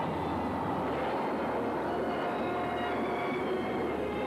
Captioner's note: thunder booms